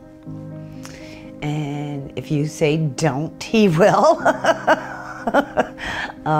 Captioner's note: laughs